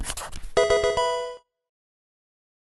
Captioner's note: pencil writing; Pokemon game sound